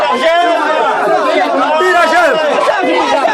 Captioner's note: yelling in pain